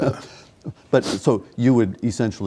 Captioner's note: laughing